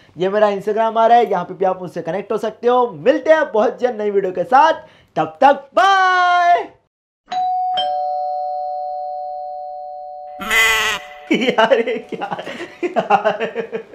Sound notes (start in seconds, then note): 7.3 door bell ringing; 10.4 laughing